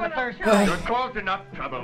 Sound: sighs

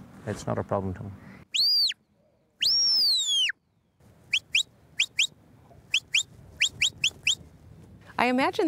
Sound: whistling commands

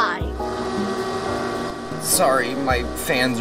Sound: fans whirring

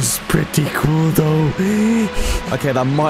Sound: breathingheavily

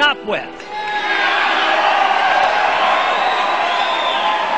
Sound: cheers and Applause

